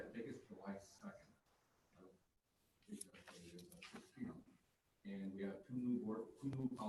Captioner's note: talking quietly